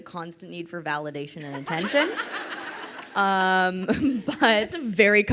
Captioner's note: crowd laughing